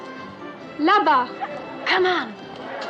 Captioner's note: speaking French